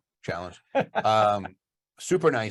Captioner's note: laughs